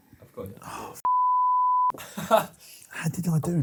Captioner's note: beep; man laughs